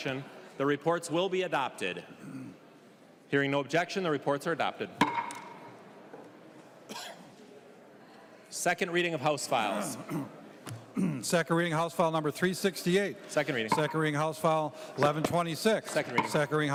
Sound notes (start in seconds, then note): 13.7 gavel